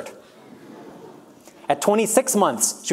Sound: audience laughs

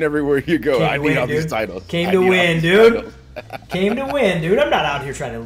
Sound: laugh

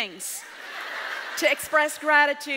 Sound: audience laughs

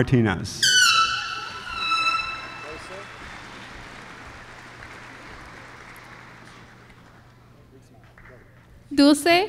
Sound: applause

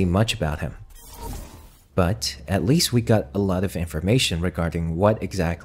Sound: glitch sound effects

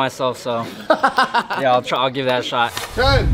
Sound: Ryan laughing

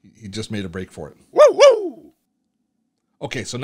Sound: dog barking

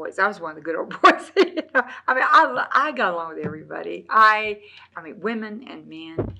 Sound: laughs

